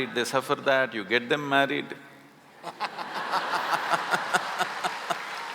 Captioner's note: laughter